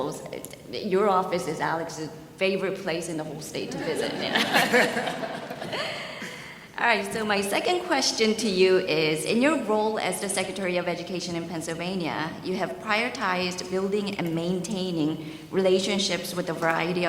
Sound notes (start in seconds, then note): 3.7 audience laughs; 3.9 man laughs